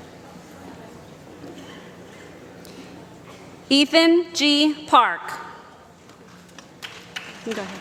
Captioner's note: applause